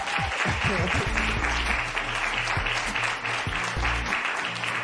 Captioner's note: applause